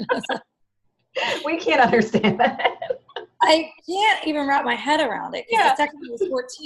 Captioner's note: laughter